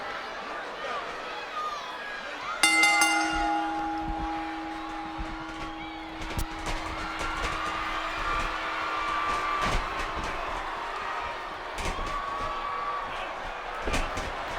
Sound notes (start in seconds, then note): 2.6 bell rings; 8.3 audience cheers